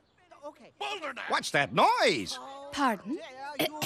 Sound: arguing

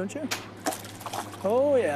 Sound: splash

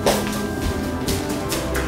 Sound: sprinting

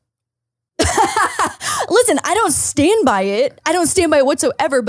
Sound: laughs

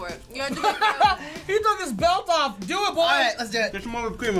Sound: laughs

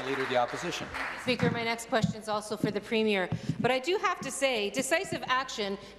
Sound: applause

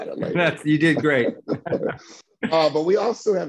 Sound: laughter

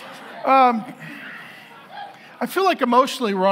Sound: congregation laughing

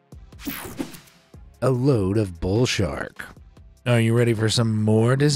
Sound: screen wipe whooshes

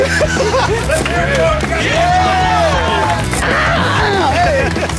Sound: laughter; cheering

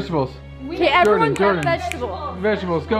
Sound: snaps fingers

